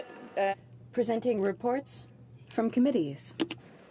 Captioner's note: speaking in French